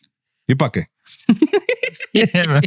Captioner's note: speaking In Foreign Language; laughing